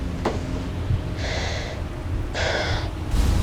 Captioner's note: sighs